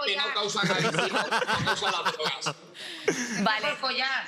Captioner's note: laughs